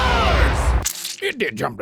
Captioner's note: spurting